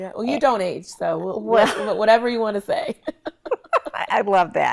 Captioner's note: laughs